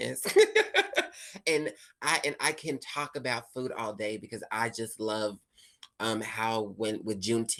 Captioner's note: laughs